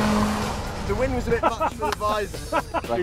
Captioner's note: laughs